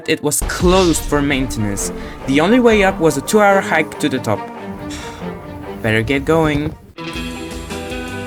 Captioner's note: sighs